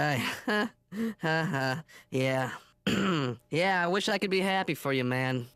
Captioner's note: forcing laugh